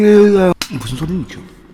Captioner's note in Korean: 찰싹